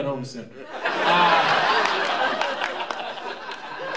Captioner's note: laughter